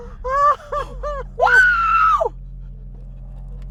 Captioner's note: screaming